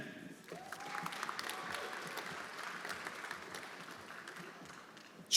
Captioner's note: everyone applauding